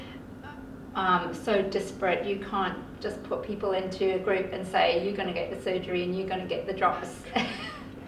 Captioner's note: laughter